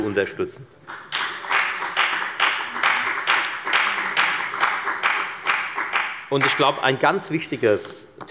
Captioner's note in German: Beifall bei der FDP